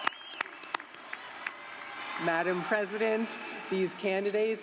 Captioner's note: cheers and applause